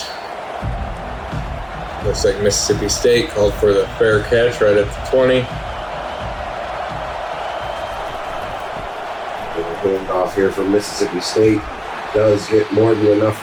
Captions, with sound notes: [Crowd Noises] Looks like Mississippi State called for the fair catch right at the 20. [Crowd Noises] They're off here from Mississippi State does get more than enough for